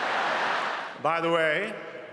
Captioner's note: laughter